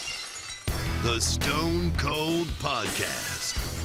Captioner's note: glass shattering